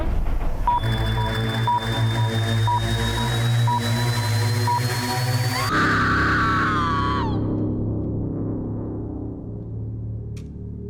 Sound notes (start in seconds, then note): 0.2 tense menacing music; 5.5 voice screams